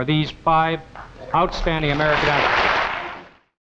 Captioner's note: audience clapping